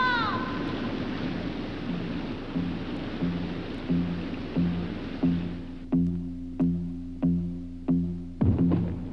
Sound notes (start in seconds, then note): 0.2 mellow guitar music; 8.4 ground rumbles